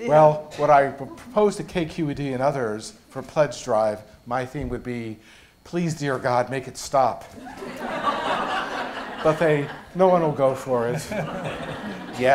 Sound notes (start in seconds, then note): 7.4 laughter